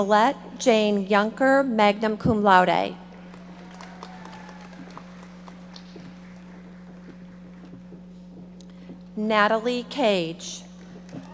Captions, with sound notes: Nicolette Jane Juncker, magna cum laude. (audience applauding) Natalie Kage.